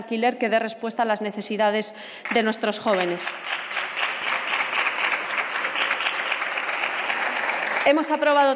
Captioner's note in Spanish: Aplausos